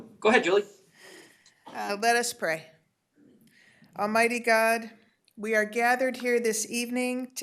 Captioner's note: reciting the pledge of allegiance